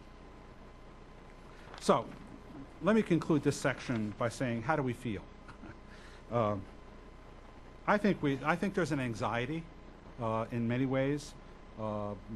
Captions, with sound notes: So, let me conclude this section by saying, how do we feel? (chuckles) I think there's an anxiety in many ways.